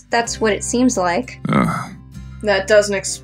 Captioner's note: Jæmis Grunts